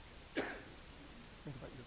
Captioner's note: coughs